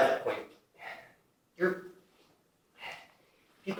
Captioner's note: sigh